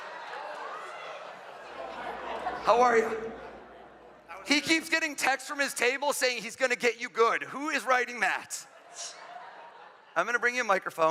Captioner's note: laughter